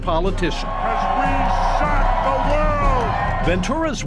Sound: crowd cheering

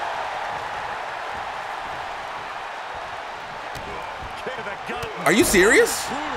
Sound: applause

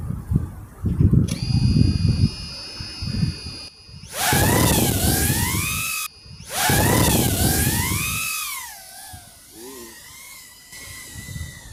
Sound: props sound

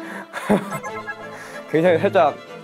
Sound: just laughing

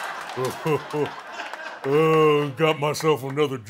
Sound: laughter; evil chuckling

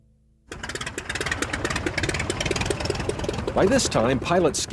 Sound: plane engine running

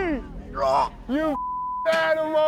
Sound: beep; gagging

